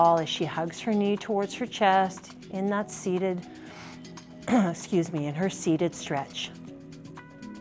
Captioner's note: clears throat